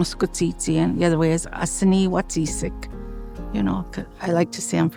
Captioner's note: speaking Cree; speaking Cree